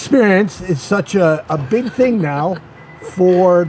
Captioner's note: laughs